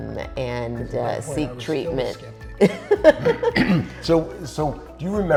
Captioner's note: laughing